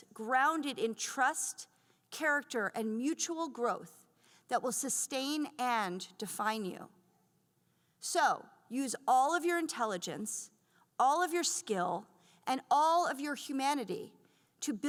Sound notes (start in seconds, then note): none